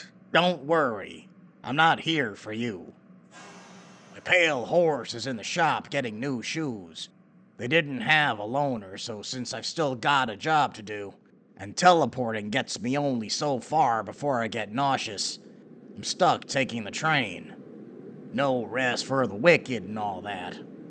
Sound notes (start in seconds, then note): 3.3 steam hiss